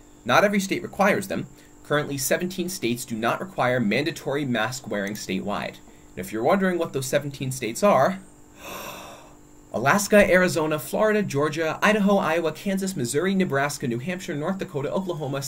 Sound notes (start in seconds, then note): 8.5 loud deep breath